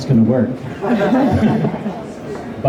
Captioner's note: laughter